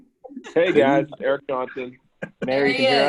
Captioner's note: murmurs; all laughing